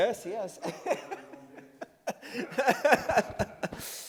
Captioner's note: laughing